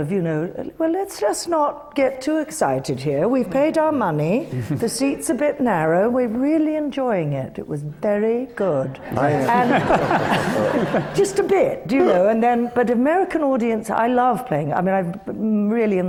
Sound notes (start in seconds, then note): 9.0 laughter